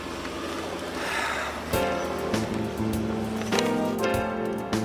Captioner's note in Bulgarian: Въздишане